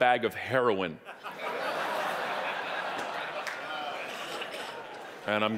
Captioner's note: audience laughing